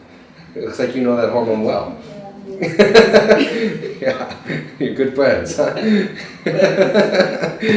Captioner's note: laughter